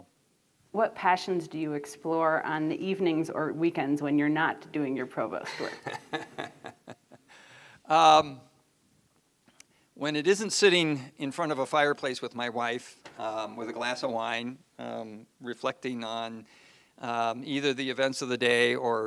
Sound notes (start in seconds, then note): 5.4 laughs